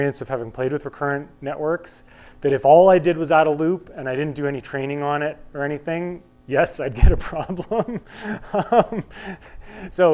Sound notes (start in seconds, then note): 7.1 laughing